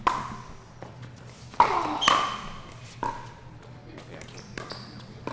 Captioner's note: ball being hit; shoes squeaking; player groans